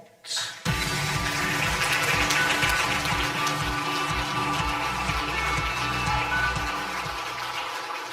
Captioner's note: upbeat music; audience applause